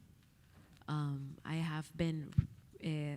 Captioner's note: speaking Spanish